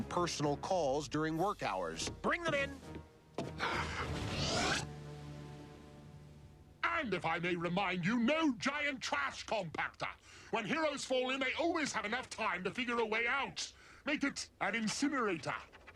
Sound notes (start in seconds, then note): 3.5 gasps